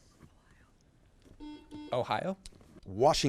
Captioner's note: buzzer beeps